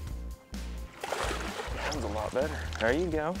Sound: splashing

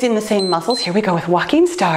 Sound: timer beeps

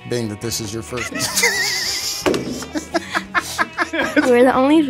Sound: laughter

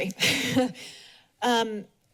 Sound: chuckles

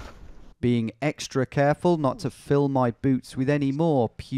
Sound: voiceover

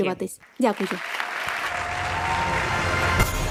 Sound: applause

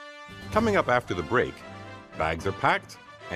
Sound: none

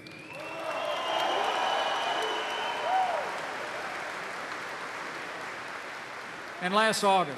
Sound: applause

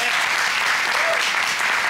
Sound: applause

